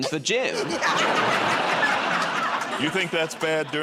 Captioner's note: laughter